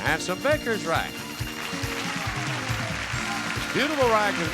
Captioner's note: audience cheering